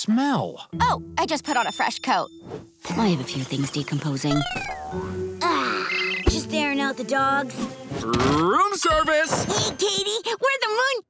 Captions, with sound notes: Oh, I just put on a fresh coat. I have a few things decomposing. [sighs] Just airing out the dogs. Room service. Hey, Katie, we're the Moon...